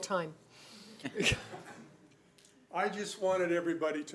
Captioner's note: laughing